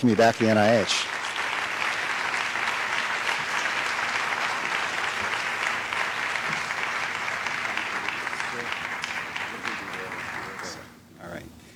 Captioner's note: applause